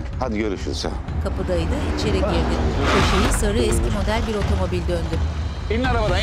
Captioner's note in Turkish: Araba sesi